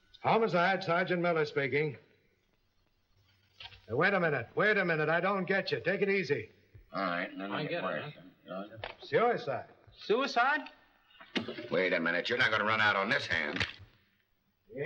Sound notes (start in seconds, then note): 7.2 men murmuring